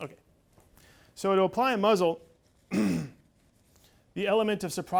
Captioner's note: clears throat